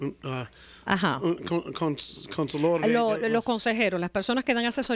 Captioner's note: Hablando ingl\s